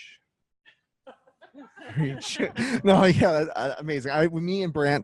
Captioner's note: laughs